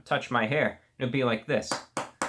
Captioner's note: taps on table